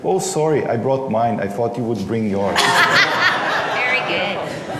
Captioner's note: laughter